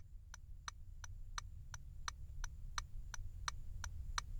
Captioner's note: hazard lights clicking